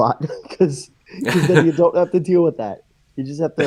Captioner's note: laughs